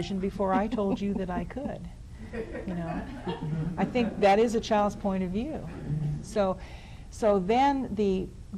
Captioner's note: laughter